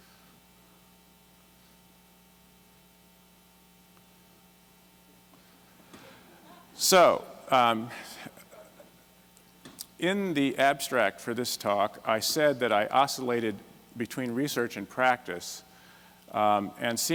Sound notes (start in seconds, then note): 6.0 laughter